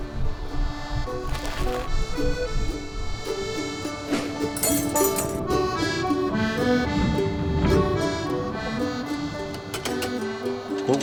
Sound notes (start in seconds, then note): 0.3 calm music; 4.1 metal clanging; 5.9 air whooshing; 5.9 calm music